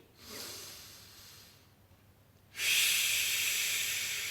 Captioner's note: air hisses